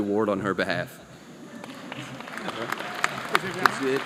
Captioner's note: applause